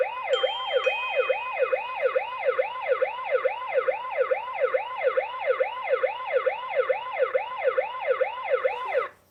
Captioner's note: sirens